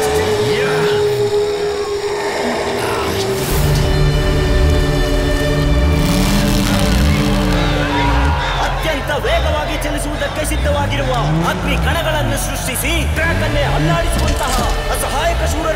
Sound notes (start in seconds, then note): 0.0 crowd Cheering; 2.4 car Sound; 7.0 crowd Cheering